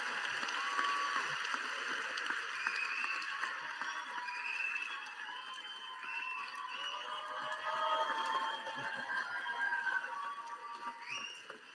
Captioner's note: applause